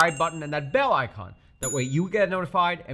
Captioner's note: bell chimes